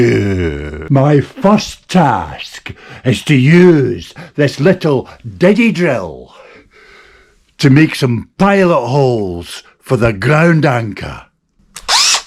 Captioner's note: Diddy Drill Noise